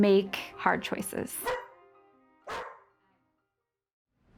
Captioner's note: dog Barking